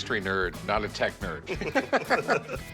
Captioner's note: both laugh